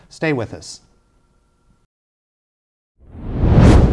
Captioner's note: silence